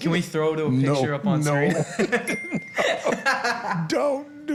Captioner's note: laughs